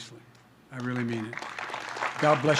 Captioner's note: applause